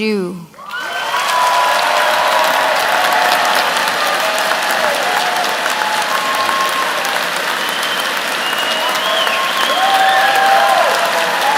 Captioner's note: cheers and Applause